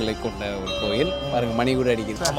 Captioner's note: temple bell rings